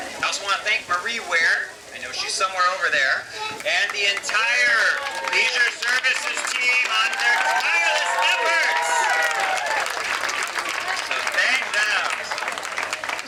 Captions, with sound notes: I also wanna thank Marie Ware, I know she's somewhere over there, and the entire Leisure Services Team on their tireless efforts! (crowd cheering) So, thank them.